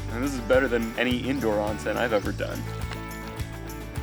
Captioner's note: none